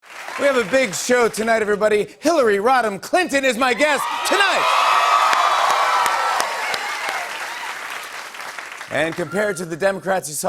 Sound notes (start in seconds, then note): 3.7 cheers and applause